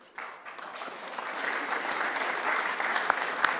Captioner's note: applause